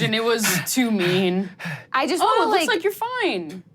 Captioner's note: starts panting